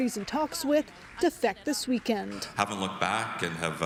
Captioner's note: applause